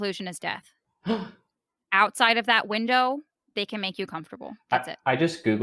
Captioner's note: gasp